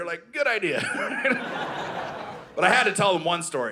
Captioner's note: audience laughing